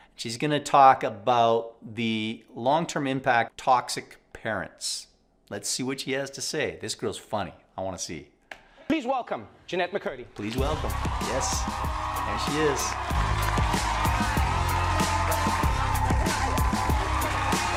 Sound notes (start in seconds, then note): 11.9 group applauding; 11.9 upbeat music